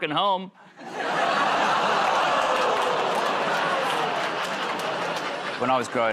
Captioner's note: laughter, groaning